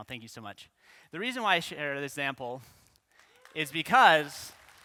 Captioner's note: clapping